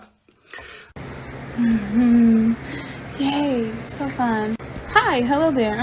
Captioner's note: awkward laughing